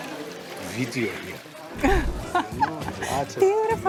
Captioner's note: laughs